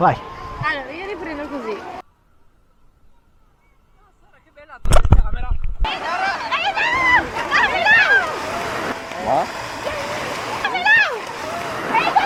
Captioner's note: excited screams